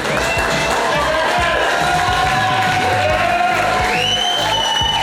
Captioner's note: crowd clapping and cheering